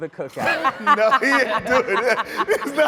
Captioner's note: all laughing